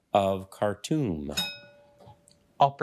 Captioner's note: bell dings